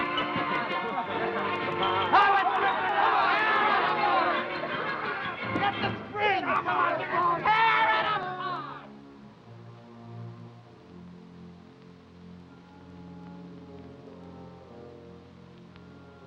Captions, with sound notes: (men yelling) - Strip it all. - Tear it apart. - Get the springs. - Come on! - Tear it apart! (pensive orchestra music)